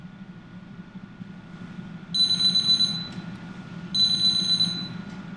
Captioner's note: phone ringing